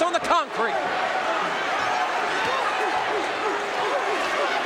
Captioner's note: audience cheering